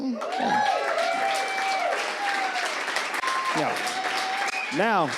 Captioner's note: audience cheers